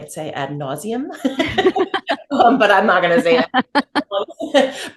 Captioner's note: both laugh